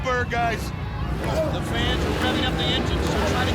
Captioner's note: motorcycles revving